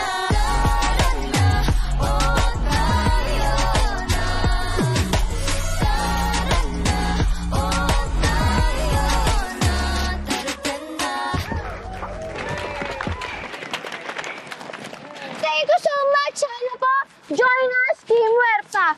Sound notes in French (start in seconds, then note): 11.2 cheering, applause; 11.3 cheering